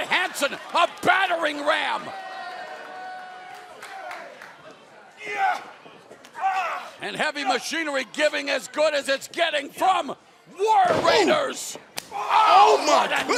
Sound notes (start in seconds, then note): 3.1 crowd chatter